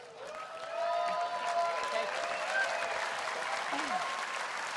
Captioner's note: laughter; cheers and applause